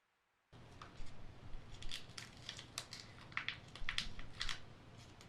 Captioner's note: crinkling